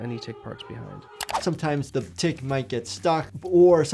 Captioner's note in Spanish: clic